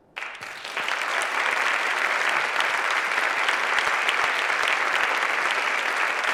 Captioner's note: applause